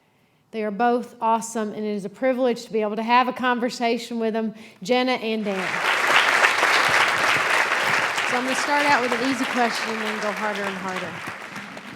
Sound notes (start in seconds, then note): 5.4 applause; 11.3 laughter